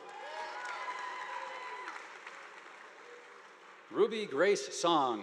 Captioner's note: audience applauding